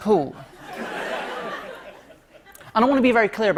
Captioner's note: light laughter